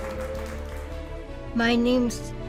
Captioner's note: cheering